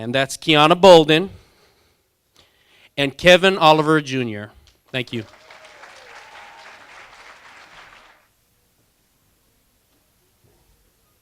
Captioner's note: applause